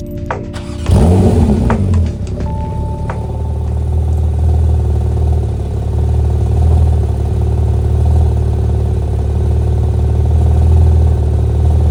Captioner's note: start-up and revs